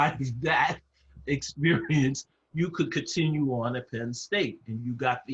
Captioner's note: laugh